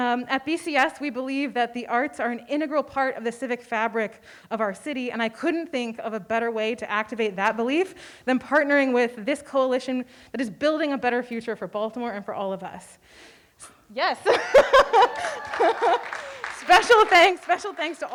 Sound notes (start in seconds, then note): 14.2 laughing; 14.4 audience applauding